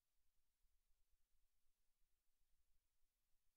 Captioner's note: none